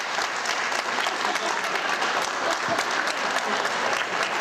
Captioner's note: laughter